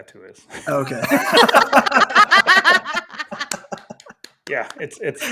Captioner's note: everybody laughing